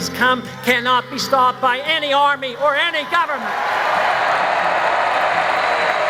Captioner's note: cheers, applause